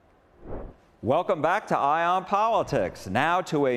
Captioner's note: transition whooshes